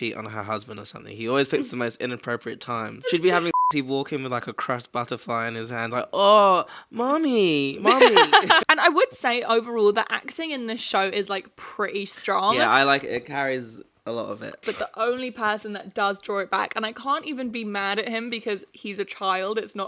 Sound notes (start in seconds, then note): 3.4 beep